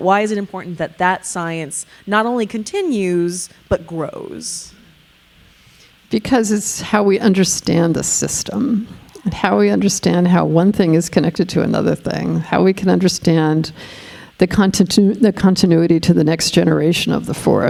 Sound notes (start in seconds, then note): none